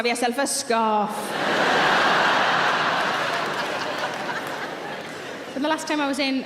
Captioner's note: audience laughing and clapping